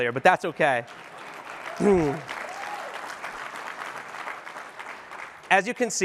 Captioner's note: applause